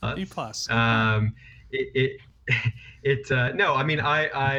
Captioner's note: stammering